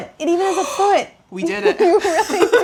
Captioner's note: gasps